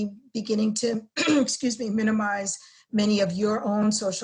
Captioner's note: cough